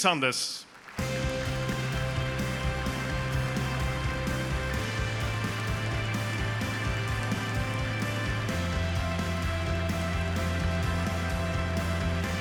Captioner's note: applause